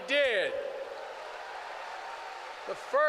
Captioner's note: applause